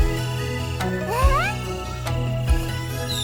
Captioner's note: giggles